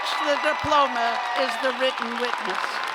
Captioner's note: cheers and applause